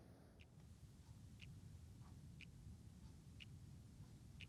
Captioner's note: clock ticking